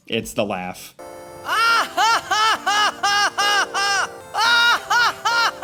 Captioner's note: Tidus laughing